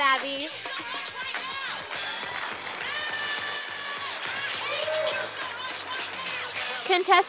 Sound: sound of applause from audience

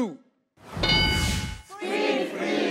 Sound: metallic chime

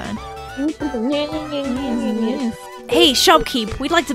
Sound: mockingly

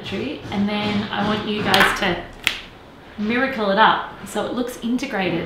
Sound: snaps

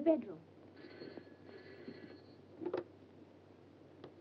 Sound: phone rings

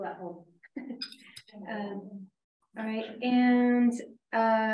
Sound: chuckles

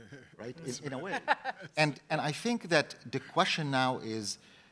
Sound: laugh

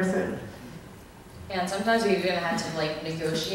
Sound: voiceover

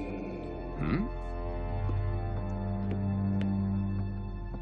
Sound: growling

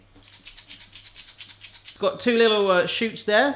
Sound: salt and pepper rattling

